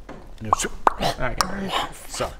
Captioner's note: zscuuh pop